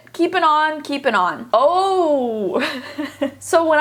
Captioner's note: laughs